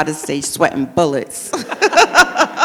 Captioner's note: all laugh